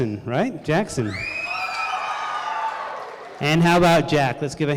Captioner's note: crowd cheering